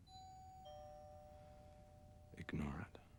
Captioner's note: doorbell rings